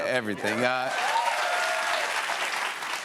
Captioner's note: cheers and applause